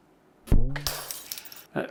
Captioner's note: glass breaking